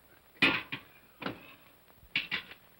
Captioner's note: cup sets down hard